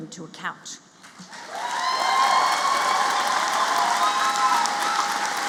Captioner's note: applause